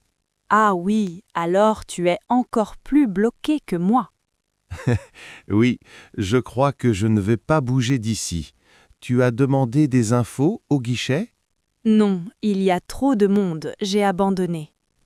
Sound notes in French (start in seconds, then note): 4.7 rire